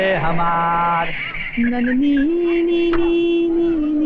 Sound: humming

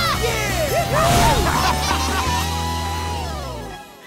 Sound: laughing

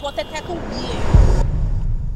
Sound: ominous sound

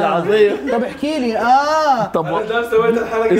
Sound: Palestinian accent

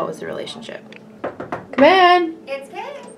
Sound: knocking

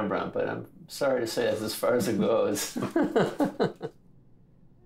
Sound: laughs

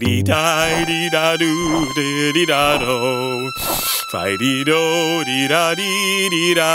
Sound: sad violin music; grasshopper humming

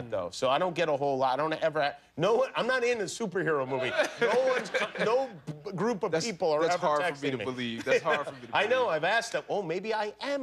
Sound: laughter

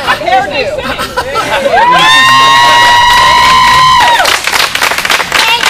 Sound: cheers and clapping

